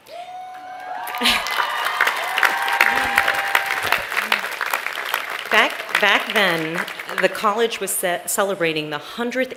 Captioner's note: cheering